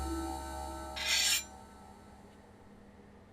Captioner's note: steel scraping